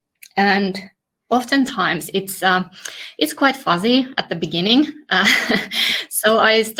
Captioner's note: laughs